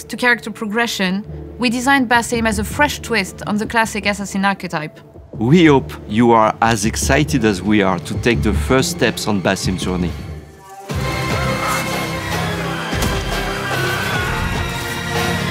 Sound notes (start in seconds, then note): 11.1 grunting; 13.5 screaming